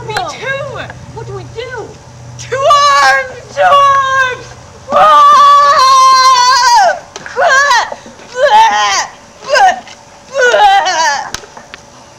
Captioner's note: screaming